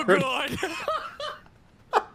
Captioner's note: laughter